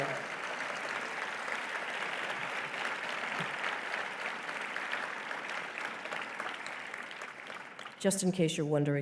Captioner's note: applause